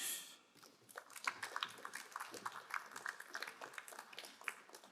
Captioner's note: crowd applauding